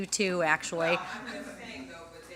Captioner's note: laughter